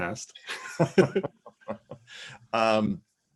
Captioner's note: laughing